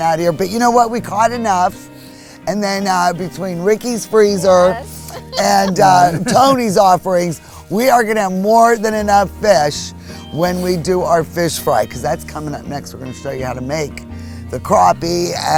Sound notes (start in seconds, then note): 4.3 laughs